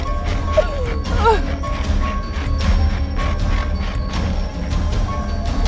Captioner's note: Angelica sobbing